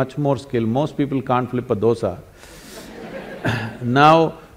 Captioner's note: laughter